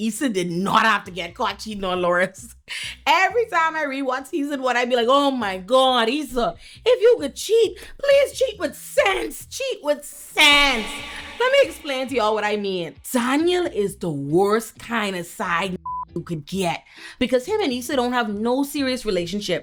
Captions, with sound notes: Issa did not have to get caught cheating on Lawrence. Every time I re-watch Issa and what I mean, like, oh my God, Issa, if you could cheat, please cheat with sense, cheat with sense. Let me explain to y'all what I mean. Daniel is the worst kind of side (beep) who could get because him and Issa don't have no serious relationship.